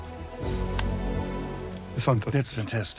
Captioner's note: sighs